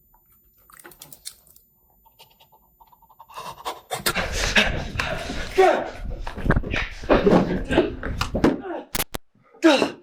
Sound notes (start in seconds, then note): 3.1 Chuck gasping; 3.4 Greg panting; 8.8 door thuds; 8.9 static crackles